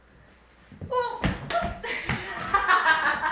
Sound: laughing

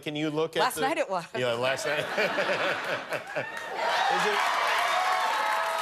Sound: cheers and applause; laughter

